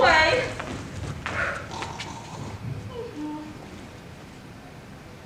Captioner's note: Bottom snoring